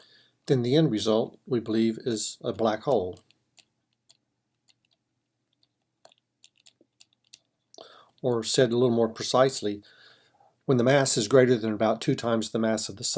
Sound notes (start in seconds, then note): 3.6 typing